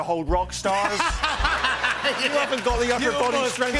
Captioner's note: laughter and applause